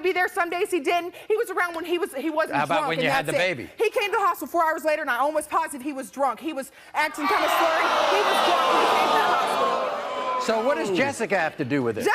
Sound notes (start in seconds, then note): 7.1 crowd jeers